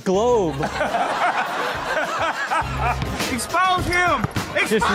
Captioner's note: all laughing